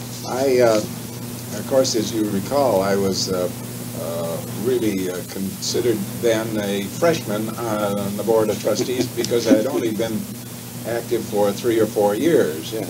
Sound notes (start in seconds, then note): 8.4 chuckles